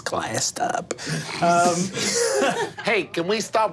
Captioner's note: group laughing